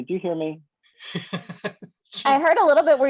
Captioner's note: laughs